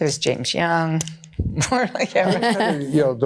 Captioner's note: laughs